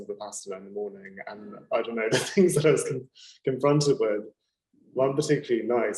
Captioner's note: laughing